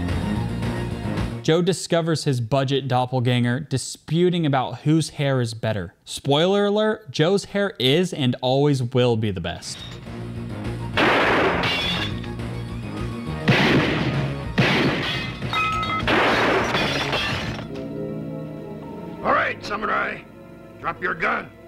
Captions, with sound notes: Joe discovers his budget doppelganger disputing about whose hair is better. Spoiler alert, Joe's hair is not a bad thing. His hair is and always will be the best. (gunshots) - All right, Samurai, drop your gun